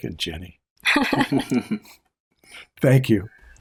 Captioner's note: laughter